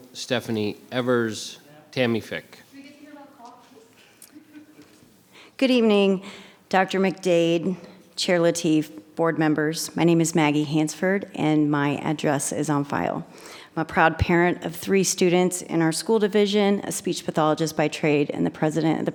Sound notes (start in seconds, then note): 3.8 laughing